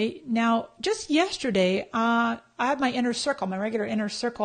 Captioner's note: none